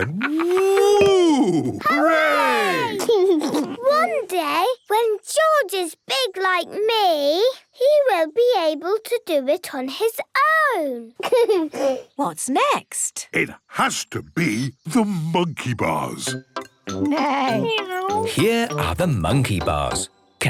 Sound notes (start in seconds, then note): 2.8 laughs; 11.2 giggles